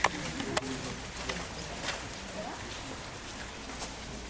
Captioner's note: people Talking in Background